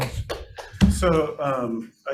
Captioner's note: clapping